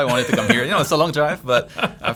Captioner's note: laughs